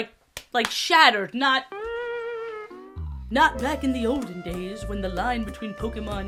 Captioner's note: spongebob disappointment sfx, "steel sting"